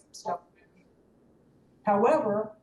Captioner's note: audio cuts out